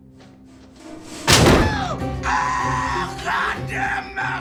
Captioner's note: loud bang